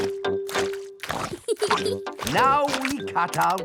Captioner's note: peppa giggles